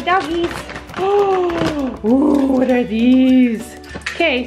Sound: gasps

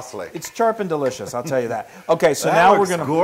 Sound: laugh

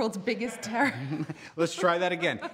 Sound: man laughing

